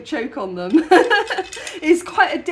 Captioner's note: laughing